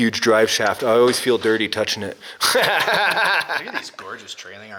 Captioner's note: laughs